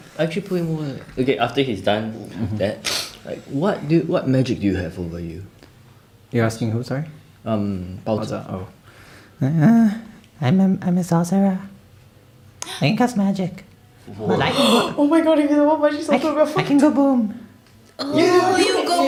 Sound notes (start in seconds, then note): 14.5 gasp